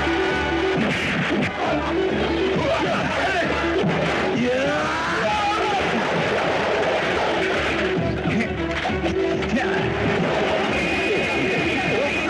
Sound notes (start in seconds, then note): 0.2 fighting Sound